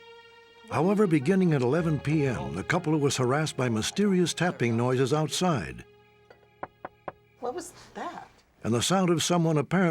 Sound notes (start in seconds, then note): 6.2 tapping